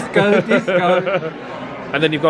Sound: laughs

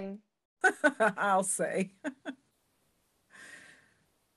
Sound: laughs

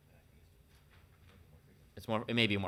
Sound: speaking distantly

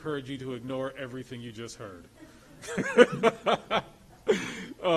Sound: laughs

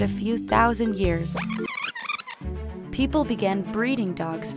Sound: sound of film speeding up

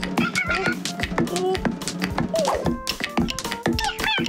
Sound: squealing; jazzy music

